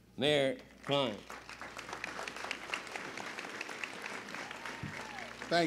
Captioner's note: applause